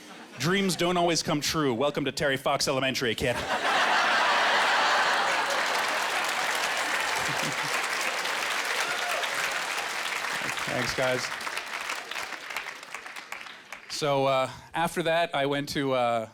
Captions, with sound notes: "Dreams don't always come true. Welcome to Terry Fox Elementary, kid." (Laughing) (Applause) Thanks, guys. So, uh, after that I went to a--